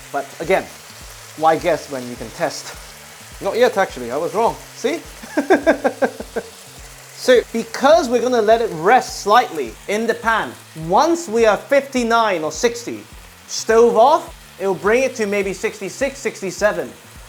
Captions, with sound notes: but again, why guess when you can test? Not yet, actually. I was wrong. See? [laughs] So, because we're going to let it rest slightly in the pan, once we are 59 or 60, stove off, it'll bring it to maybe 66, 67,